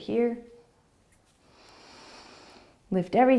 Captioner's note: inhaling